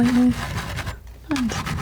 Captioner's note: scratching